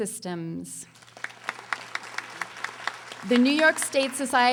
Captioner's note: audience applauding